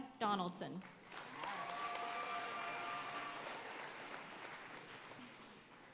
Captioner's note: audience cheering and applauding